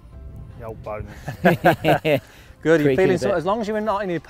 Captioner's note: everyone laughs